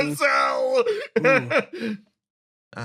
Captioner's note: laugh